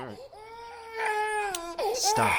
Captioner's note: sounds of perpetually crying infant